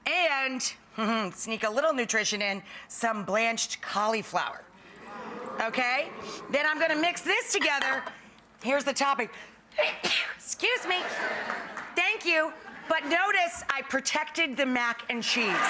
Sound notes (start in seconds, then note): 4.8 audience gasping; 9.9 sneezing; 15.4 audience laughing